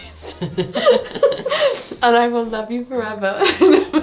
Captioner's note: laughs